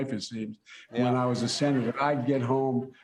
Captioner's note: laughter